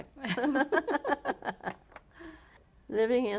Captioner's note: laughter